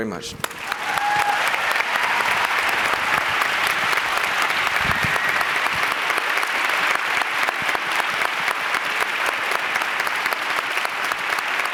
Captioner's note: applause